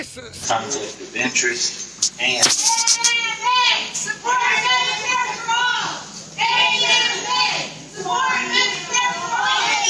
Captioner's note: chanting